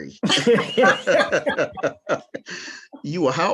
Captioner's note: panelists laughing